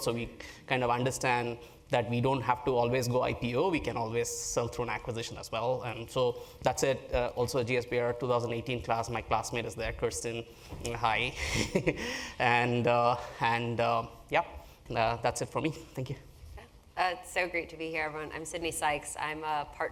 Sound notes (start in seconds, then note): 11.2 laugh